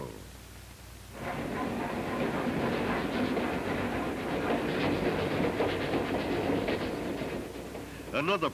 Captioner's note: train rolling over bridge